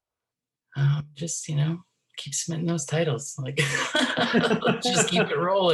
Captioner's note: laughs